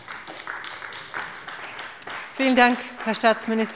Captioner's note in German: Beifall bei der CDU und dem BÜNDNIS 90/DIE GRÜNEN